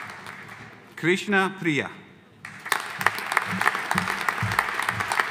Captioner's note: audience applauding